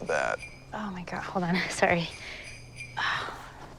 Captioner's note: phone ringing